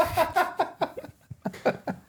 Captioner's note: both laughing